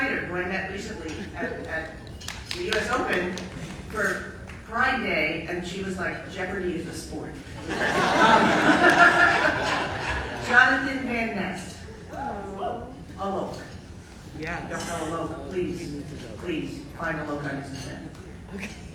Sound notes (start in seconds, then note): 7.5 audience laughing; 12.7 audience cheering